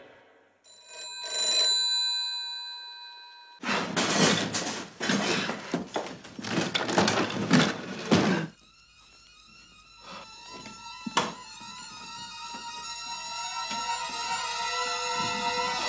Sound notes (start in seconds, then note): 0.7 phone ringing; 3.6 sound of cupboard being moved; 9.9 eerie music